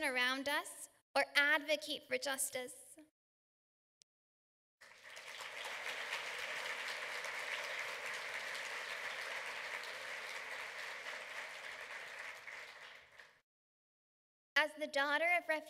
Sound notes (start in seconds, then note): 4.8 applause